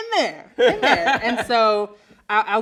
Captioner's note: laughs loudly